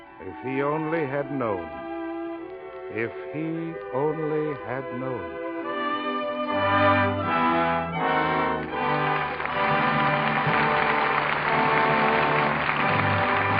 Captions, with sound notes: if he only had known, if he only had known. (somber music) (audience applauding)